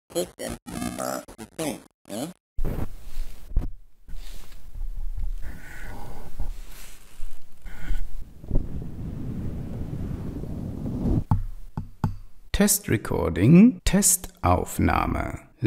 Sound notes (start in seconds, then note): 4.7 testing microphone sounds